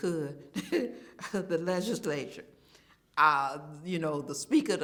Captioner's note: chuckles